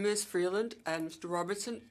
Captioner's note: speaking French